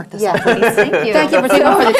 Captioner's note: laugh